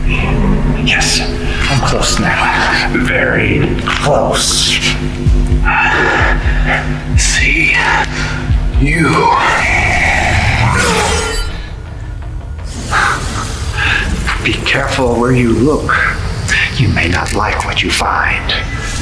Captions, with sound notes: Yes, I'm close now, very close. - I see you. (weapons clanging) - Be careful where you look. You may not like what you find.